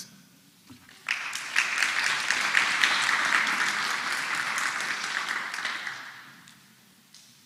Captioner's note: applause